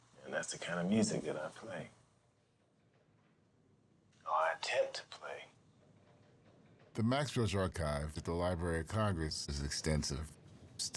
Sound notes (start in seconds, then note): none